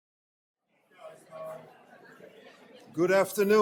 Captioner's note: audience chattering